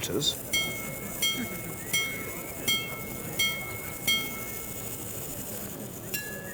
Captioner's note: watch chimes